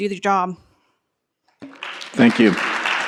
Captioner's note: applause